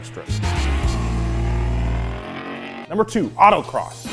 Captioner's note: car engine revs